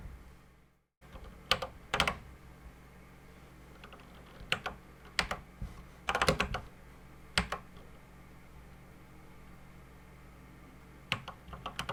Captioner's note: typing on a C64 keyboard